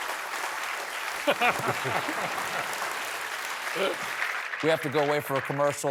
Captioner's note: applause